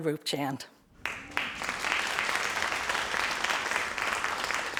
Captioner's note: crowd applauding